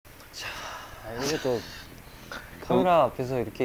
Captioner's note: just laughs